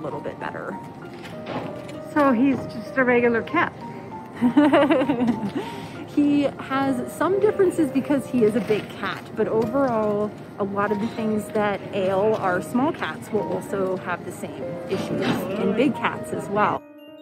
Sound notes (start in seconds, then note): 4.4 laughs